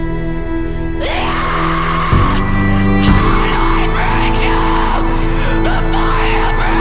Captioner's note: screams